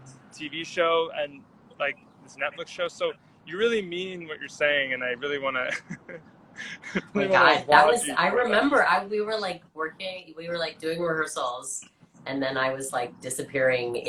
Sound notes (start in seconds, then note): 3.6 laughs